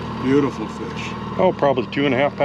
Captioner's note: boat engine running